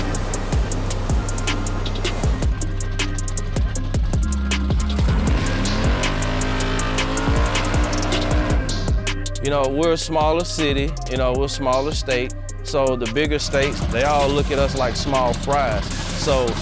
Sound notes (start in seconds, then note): 0.3 hip hop music; 4.0 car engine revving